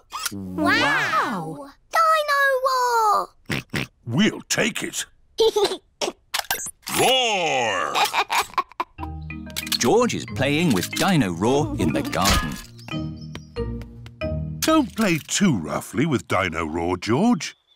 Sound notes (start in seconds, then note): 3.5 oinks; 5.2 giggles; 7.7 giggles